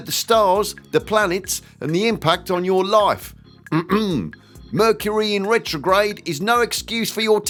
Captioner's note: ahem